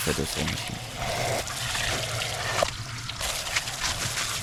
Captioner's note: water running